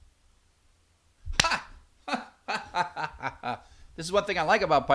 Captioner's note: laughs